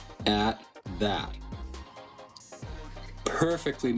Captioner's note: sizzling